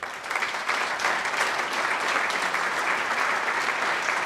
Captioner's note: applause